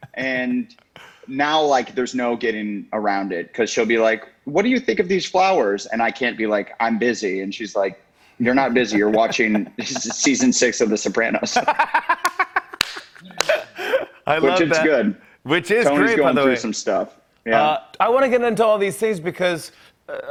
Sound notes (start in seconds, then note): 11.4 laughs